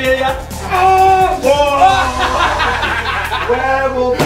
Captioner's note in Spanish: risas